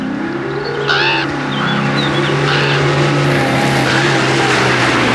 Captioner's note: piano scales; engine whirs; bird caws; tires crunching on dirt